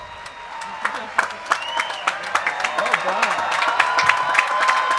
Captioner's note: cheering and applause